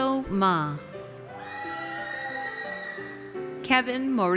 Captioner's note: audience cheers